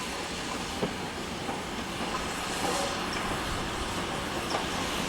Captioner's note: train passing